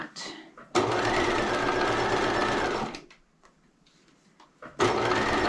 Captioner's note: sewing machine humming